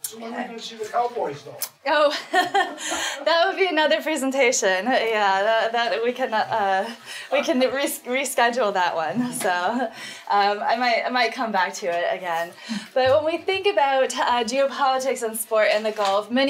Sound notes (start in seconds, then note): 2.0 laughs